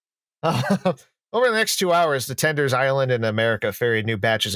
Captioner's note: laughs